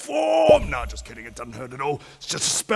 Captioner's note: pop!